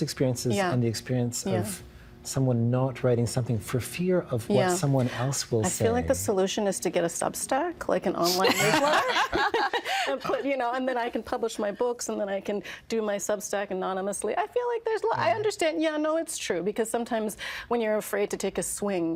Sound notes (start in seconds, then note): 8.4 all laughing